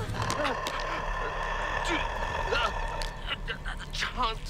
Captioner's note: mummy growling; Rhys gasping